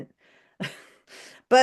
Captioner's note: chuckles